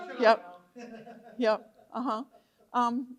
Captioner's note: laughs